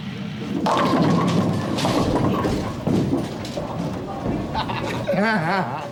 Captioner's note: bowling pins crash